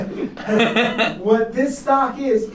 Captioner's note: laughter